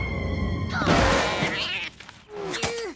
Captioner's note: angry cat meows; thuds